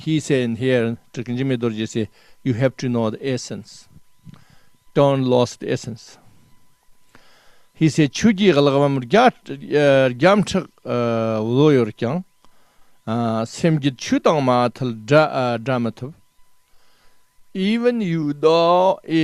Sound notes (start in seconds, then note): 0.0 tibetan; 11.3 tibetan